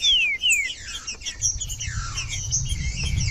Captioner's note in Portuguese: trinca ferro cantando